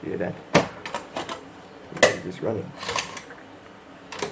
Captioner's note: disc tray ejects